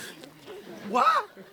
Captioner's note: laughter